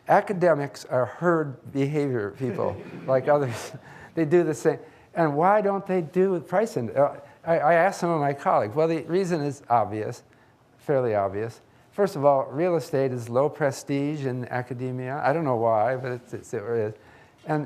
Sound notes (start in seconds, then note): 2.4 laughs; 2.4 audience laughing